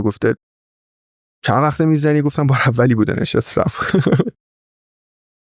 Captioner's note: laughs